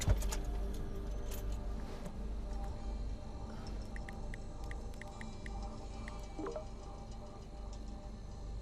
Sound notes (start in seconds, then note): 3.9 cell phone keys tapping